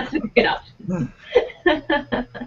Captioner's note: laughing